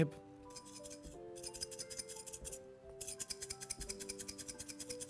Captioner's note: container shaking